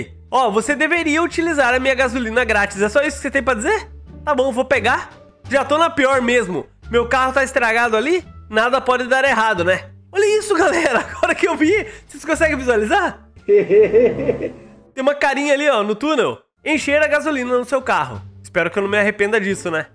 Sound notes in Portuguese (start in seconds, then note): 13.5 risos